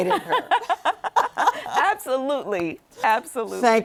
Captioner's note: both laugh